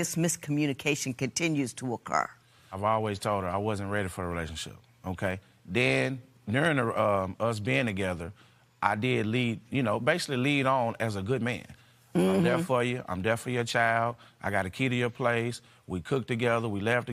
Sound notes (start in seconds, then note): none